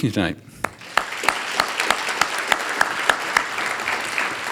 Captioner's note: audience applauding